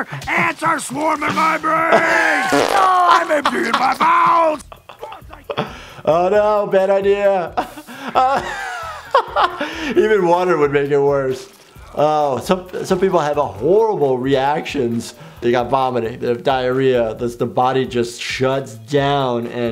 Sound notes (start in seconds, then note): 0.0 laughing; 1.3 Randall grunting; 2.3 farting noise; 7.6 laughing